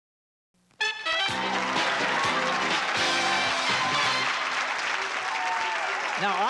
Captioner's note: applause and cheering